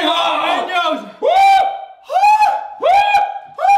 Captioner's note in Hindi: चिल्लाना